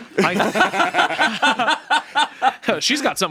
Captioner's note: everyone laughs